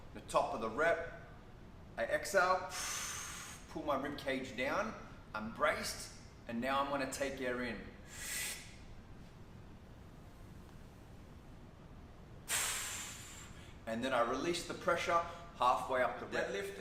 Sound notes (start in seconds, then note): 2.6 exhales; 8.0 inhales; 12.4 exhales